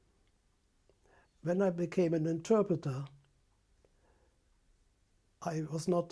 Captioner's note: pauses for 3 seconds